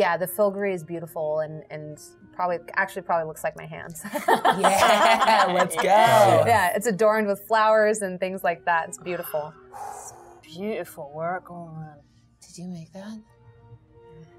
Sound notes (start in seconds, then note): 4.0 participants laughing